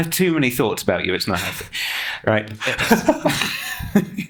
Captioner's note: laughing